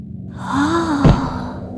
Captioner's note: moans